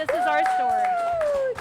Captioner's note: applause